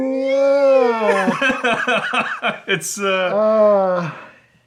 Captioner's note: laughs